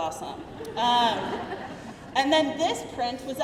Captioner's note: crowd laughing